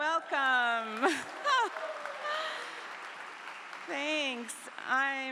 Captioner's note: clapping